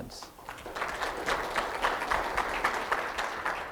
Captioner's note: audience claps